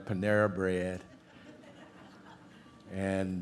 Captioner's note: audience laughs